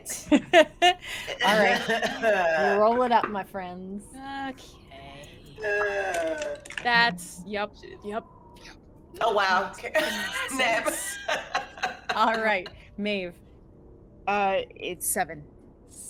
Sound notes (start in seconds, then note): 0.2 laughs; 5.4 bawls; 9.9 laughs